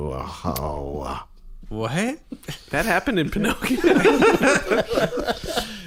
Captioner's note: laughing